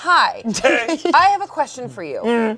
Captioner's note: laughs